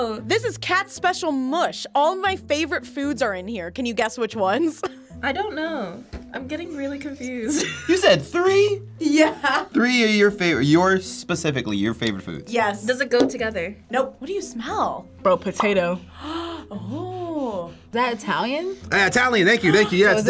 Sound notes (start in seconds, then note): 4.6 chuckling; 7.5 chuckling; 15.8 bubble popping